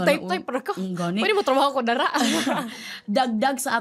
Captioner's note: laughs